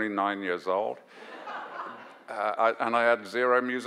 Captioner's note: audience laughs